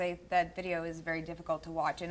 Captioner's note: none